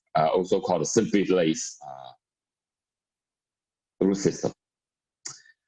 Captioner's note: murmur